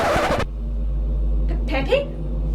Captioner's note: record scratches